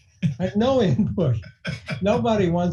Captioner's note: laughing